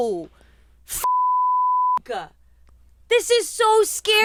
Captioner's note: beep